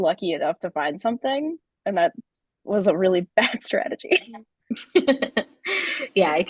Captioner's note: chuckles; laughing